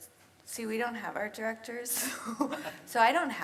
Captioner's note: laughs